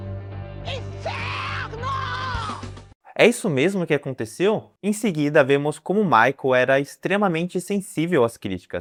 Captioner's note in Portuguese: grito